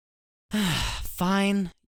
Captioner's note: Junius sighs